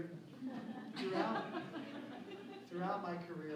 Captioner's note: laughter